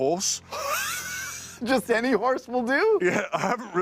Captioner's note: laughs